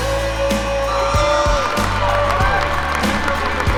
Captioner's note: crowd cheering